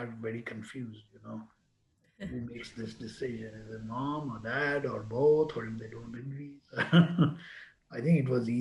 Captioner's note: laughs